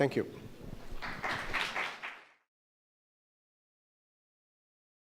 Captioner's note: audience applauds